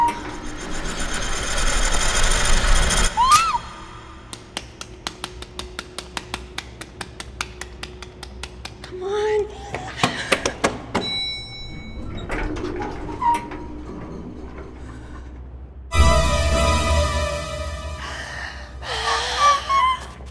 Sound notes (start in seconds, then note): 1.0 suspenseful music; 3.1 screams; 10.8 elevator dings; 14.8 horrified breathing; 16.0 suspenseful music; 17.9 horrified breathing